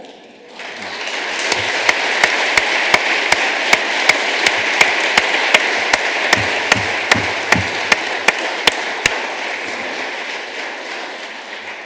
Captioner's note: applause